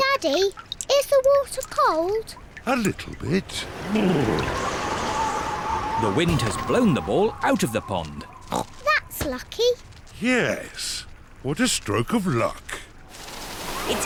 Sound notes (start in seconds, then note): 2.9 wind howls